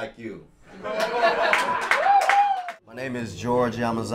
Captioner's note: audience cheer